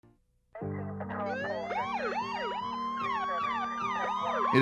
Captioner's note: police sirens